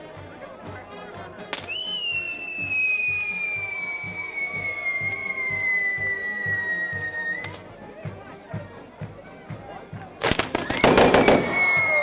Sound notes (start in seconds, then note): 1.5 whistling; 10.4 banging; 11.8 cheering